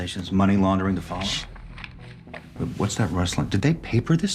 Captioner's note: paper rustling